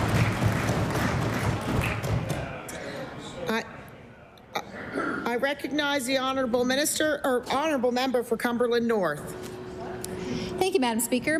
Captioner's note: applause